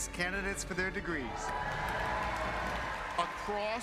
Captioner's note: cheers